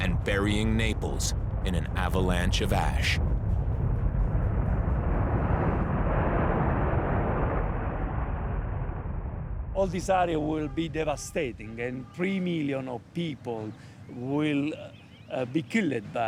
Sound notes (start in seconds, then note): 4.7 pyroclastic flow roaring